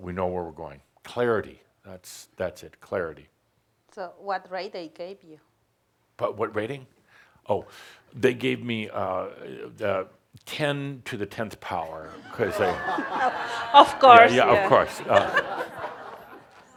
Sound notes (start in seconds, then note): 12.0 laughter